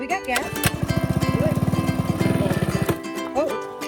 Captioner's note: engine roaring; engine stops